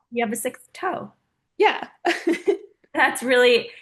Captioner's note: laughing